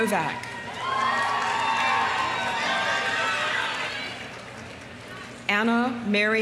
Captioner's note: audience cheering; audience applauding